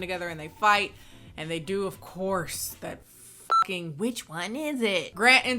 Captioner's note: beeps